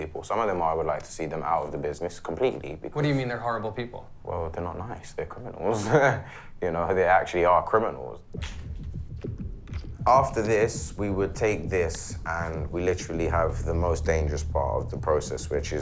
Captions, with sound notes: Some of them are -- I would like to see them out of the business completely, because -- What do you mean, they're "horrible people"? Well, they're not nice. They're criminals. [ Laughs ] You know, they actually are criminals. [ Twisting cap ] After this, we would take this and we literally have the most dangerous part of the process,